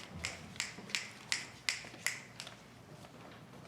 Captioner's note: crowd snapping their fingers